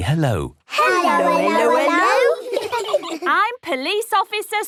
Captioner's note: children giggle